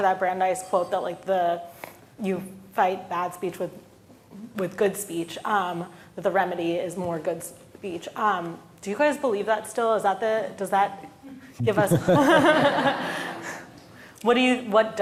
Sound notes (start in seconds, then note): 11.6 all laughing